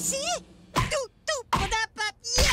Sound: hard thuds

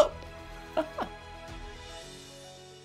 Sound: laughs

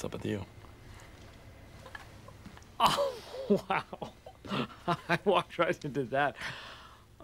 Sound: laughing

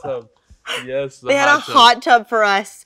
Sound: Elle laughing

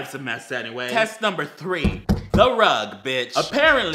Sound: pounds table

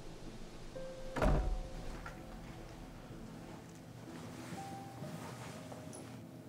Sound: door thuds; somber dramatic music

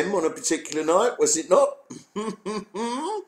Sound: chuckles

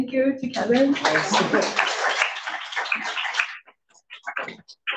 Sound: audience applauds

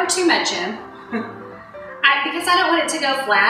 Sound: laughing

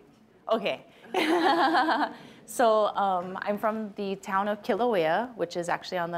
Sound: laughs

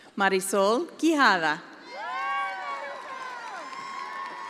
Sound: attendees applauding

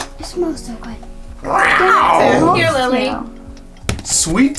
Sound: roaring

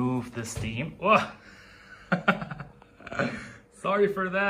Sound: laughs

